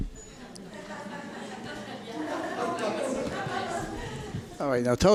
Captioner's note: audience laughter